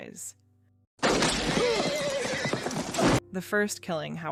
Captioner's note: gunshots